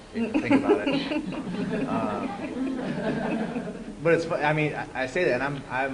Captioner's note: laughter